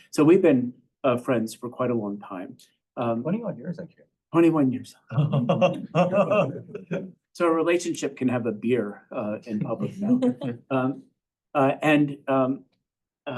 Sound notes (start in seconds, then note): 5.1 laughs